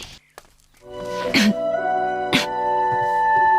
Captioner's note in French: Tousse